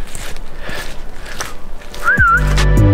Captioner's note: whistling